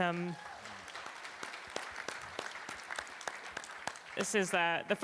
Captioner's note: applause